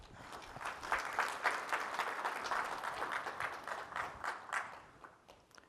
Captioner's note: applause